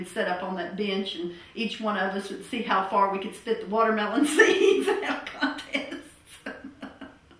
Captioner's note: laughter